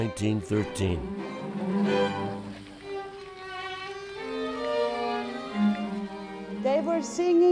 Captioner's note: fountain water rushing